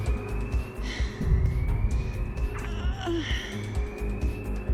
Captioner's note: heavy breathing